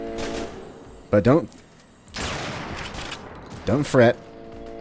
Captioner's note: bam; bam